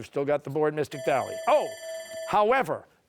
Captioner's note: bell ringing